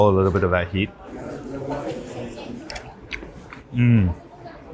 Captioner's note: people chatter